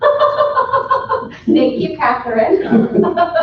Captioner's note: laughs